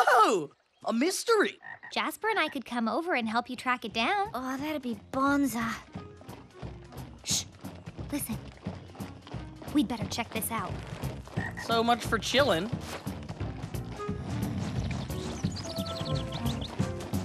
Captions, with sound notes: Whoah! A mystery! Jasper and I could come over and help you track it down. That'd be bonza. (Marching) Shh. Listen. We'd better check this out. So much for chillin'!